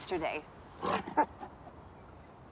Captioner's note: snorting